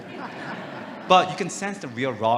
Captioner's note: audience laughing